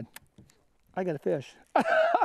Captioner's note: laughter